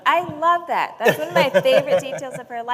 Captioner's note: laughter